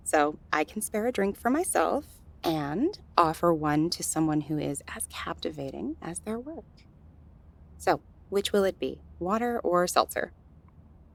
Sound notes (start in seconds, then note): 2.2 flirtatious tone